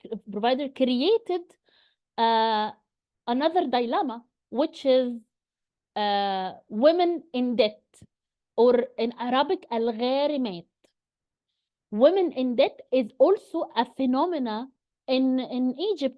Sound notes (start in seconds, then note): 9.3 <i>speaks Arabic</i>